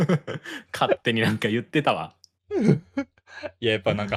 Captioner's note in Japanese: 笑い